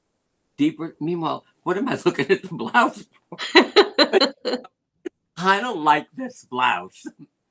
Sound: laughter

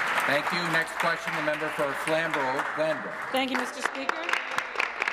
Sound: applause

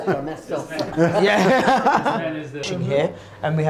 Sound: laughter

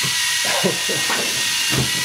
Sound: laughs

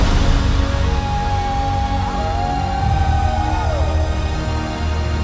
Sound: men howling

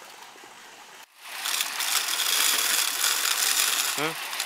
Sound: grinding

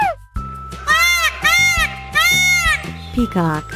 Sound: peacock sound

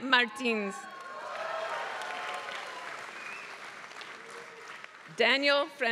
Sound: applause

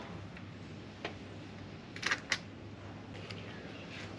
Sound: disassembly sounds

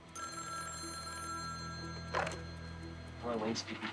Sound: phone ringing

